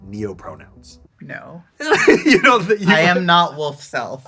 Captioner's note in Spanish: risas